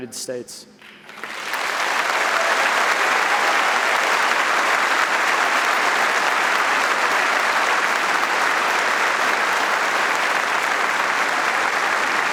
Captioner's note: audience applauding